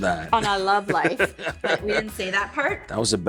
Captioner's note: Dean laughs